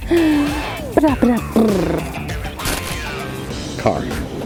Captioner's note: laughs; silly blubbering